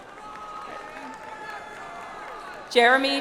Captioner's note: audience applauds